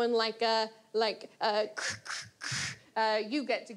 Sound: imitates crunch of a pepper grinder

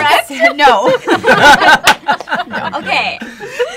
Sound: laughter

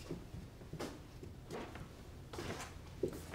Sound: feet shuffling

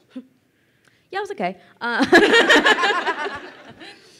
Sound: laughing

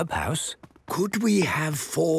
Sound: speaking quietly

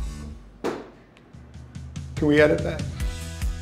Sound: dough thumping

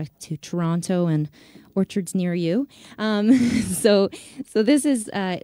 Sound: laughs

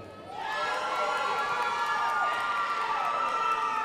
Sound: crowd applauding

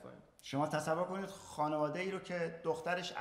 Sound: speaking in farsi

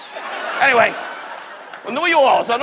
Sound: audience laughs; Don muttering

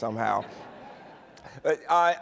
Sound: laughter

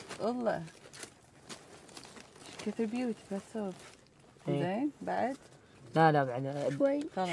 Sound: group speaking in foreign language continues

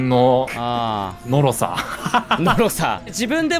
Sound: laughs

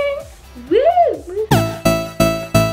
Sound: cheers; upbeat techno music

